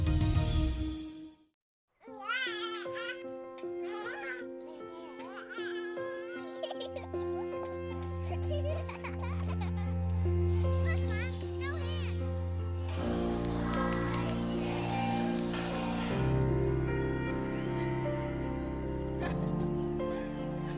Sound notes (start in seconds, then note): 2.0 baby babbling; 6.9 child laughing; 16.9 bicycle bell rings